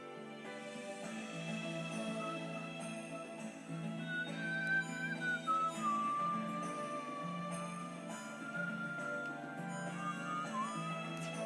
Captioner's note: whistling Along to Music